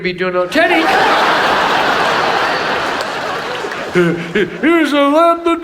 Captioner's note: audience laughs